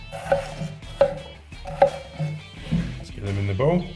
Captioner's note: knife tapping